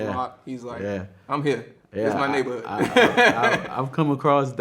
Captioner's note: laughs